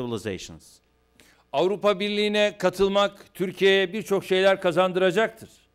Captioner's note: non-english speech